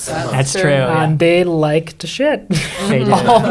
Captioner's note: chuckles